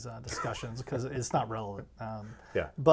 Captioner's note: laughing